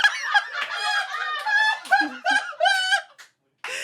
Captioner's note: they laugh